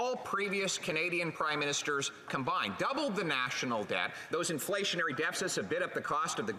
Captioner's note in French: voix de l'interprète